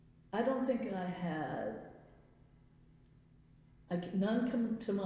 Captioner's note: none